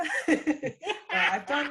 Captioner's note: laughing